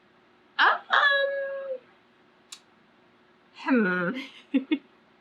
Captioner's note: laughs